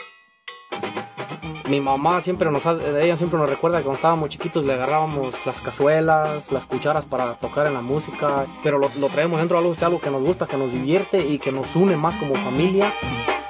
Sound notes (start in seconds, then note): 1.9 in Spanish